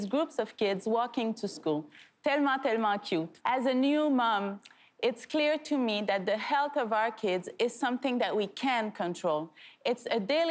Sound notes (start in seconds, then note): 2.5 speaking French